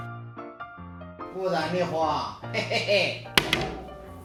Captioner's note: laugh